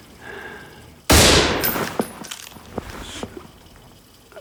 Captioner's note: booming